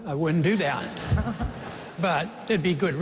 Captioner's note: laughter